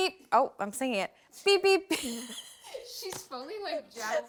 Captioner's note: laughs